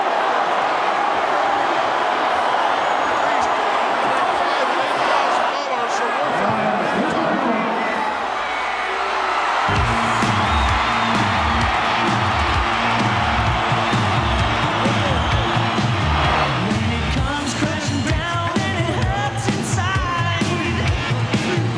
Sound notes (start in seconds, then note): 0.0 audience shouting; 8.8 audience cheering; 8.8 upbeat music